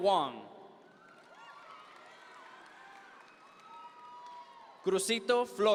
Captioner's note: audience members cheer